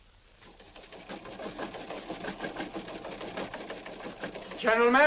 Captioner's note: machine rattling